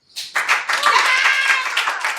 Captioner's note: background cheering